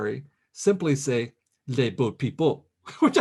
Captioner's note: speaks in French